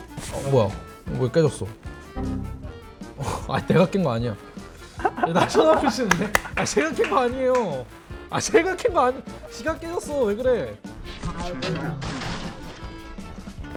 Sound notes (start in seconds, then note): 4.9 everyone watching just cracks up